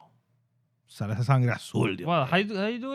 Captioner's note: speaking In Foreign Language